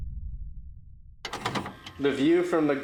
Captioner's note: VCR clattering